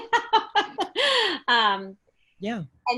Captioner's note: laughs